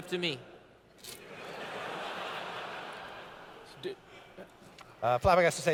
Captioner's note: laughter